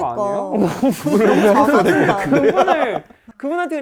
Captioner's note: murmur